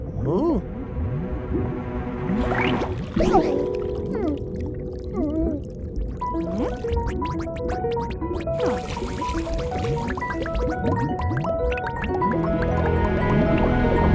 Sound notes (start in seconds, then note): 2.9 puffing; 6.2 piano music; 7.3 bubbles popping